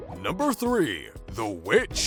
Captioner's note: deep Voiceover